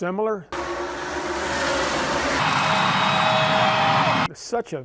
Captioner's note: car engines roaring and crowd cheering